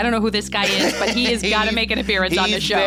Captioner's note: laughs